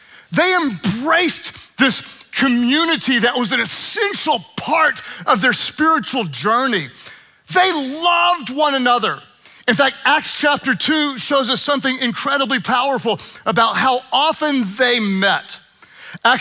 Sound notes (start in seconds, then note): none